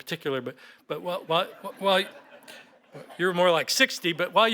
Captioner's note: laughter